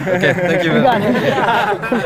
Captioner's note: group laughter